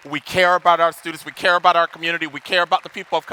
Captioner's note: audience applauding